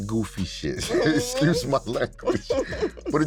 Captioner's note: both chuckling